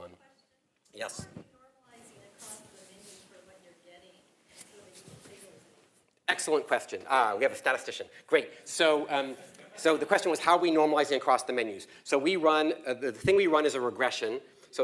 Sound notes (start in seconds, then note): 9.2 laugh